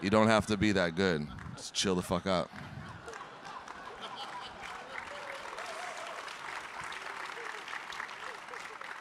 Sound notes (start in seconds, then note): 2.5 audience clapping; 2.9 audience laughing